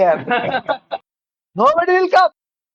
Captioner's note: laughs